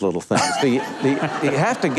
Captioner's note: audience laughs